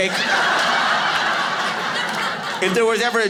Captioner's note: audience laughing